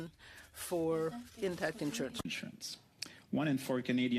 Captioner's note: speaking French